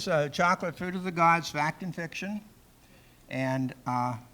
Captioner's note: none